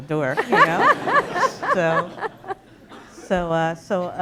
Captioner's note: laughter